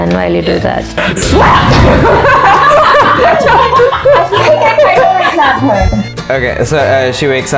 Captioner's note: slap!!!; laughter